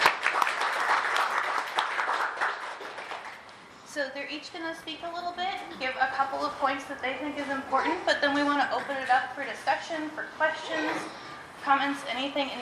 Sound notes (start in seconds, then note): 0.0 applause